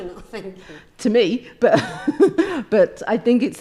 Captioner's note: laughs